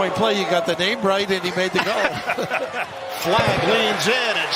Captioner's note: laughter